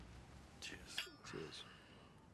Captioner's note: glasses clinking